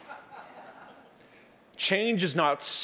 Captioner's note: chuckling